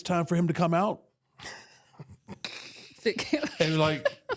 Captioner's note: laugh